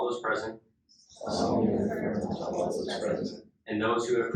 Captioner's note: inductees repeat